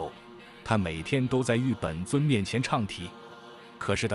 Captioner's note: chanting